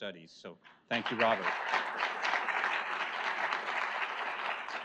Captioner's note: audience applauds